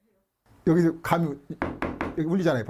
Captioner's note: hammering sound